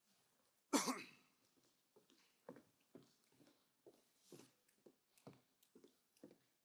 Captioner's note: person coughing; footsteps clicking